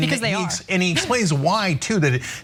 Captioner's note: laugh